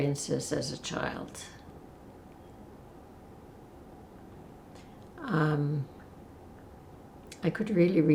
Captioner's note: pauses 6 seconds